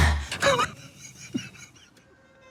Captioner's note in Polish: szaleńczy śmiech